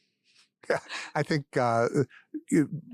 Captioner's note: laugh